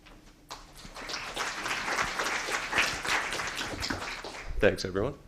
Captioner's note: applause